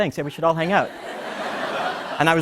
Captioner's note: laughter